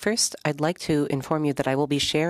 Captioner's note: speaking French